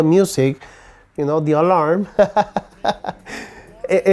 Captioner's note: laughs